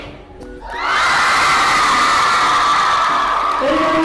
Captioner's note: screaming